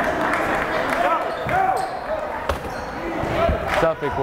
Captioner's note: yelling